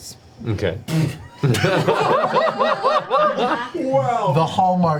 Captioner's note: all laugh